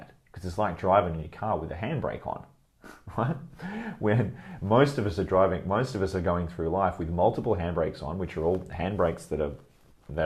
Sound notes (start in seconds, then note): 2.8 chuckles